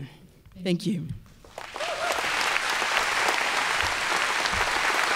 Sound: applause

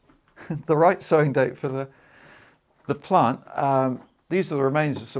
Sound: chuckles

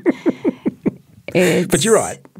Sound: laughing

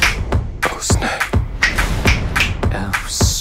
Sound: whispers

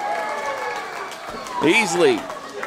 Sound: crowd applauding

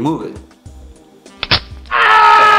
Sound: crunches; screams

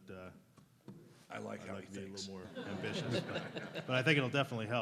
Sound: laughs

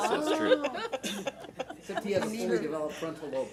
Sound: board laughs

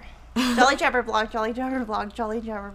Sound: laughing

